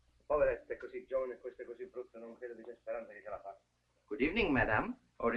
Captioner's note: Luigi speaking foreign language